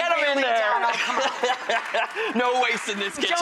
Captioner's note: laughter